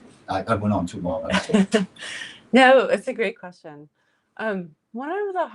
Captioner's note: laughs